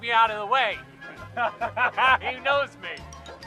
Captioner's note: laughter